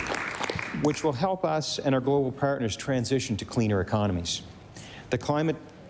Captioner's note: applause